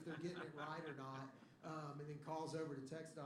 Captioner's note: laughter